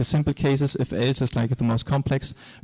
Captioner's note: none